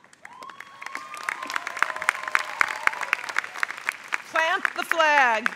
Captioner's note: crowd applauds